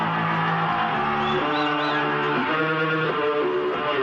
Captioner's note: crowd cheering